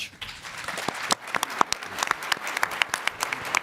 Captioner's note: applause